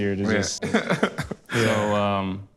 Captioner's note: laughs